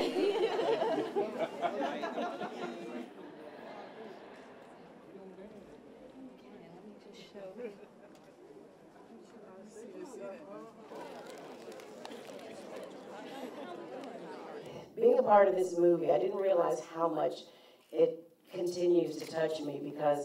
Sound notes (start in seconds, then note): 0.0 laughter; 3.4 crowd noise